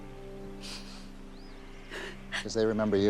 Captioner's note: sobs